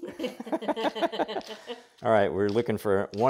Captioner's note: laughing